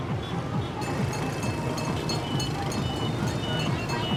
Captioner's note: bell ringing